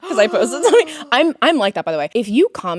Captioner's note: Courtney gasps